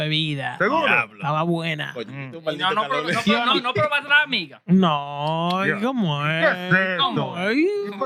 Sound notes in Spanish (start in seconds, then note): 3.1 Hablando en idioma extranjero